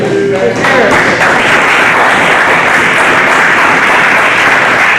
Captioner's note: students applauding